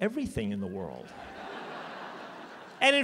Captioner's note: laughter